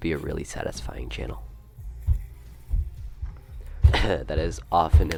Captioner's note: loud thuds